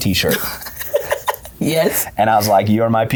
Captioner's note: laughs